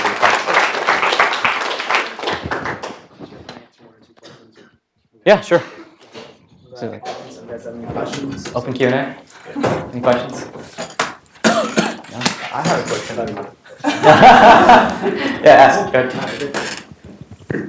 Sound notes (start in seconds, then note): 0.0 applause; 11.4 cough; 13.7 laugh